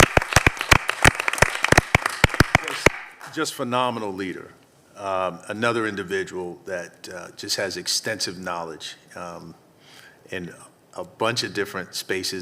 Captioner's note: applause